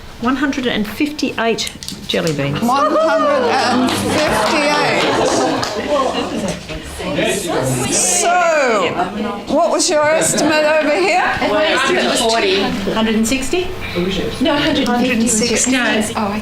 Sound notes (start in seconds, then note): 3.2 audience applause